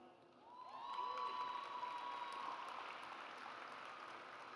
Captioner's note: audience cheers